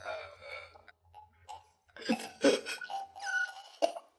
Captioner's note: choking and gurgling